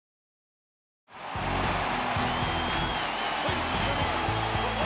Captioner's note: crowd cheering